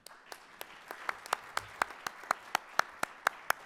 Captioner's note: audience applauds